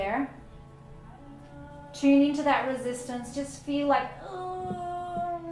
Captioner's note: groans